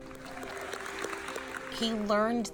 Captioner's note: audience applauding